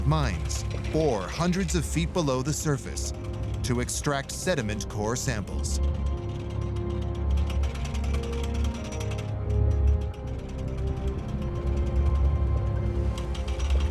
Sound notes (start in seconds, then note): 5.6 pulley rattling; 9.7 orchestral music